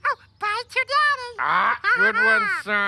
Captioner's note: laughing